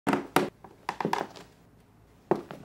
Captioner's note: creaking